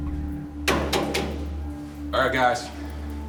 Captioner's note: light banging